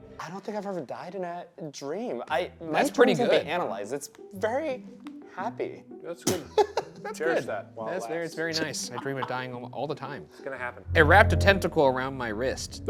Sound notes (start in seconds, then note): 6.3 laughs